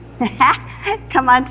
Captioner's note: laughs